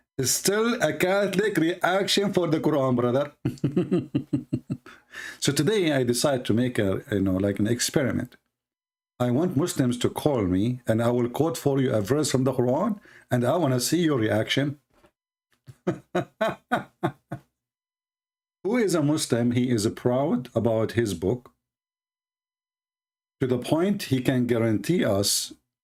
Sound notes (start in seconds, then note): 15.7 Ketawa